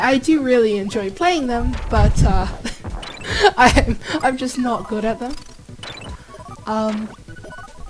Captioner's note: laughs